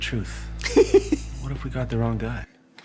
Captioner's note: laughs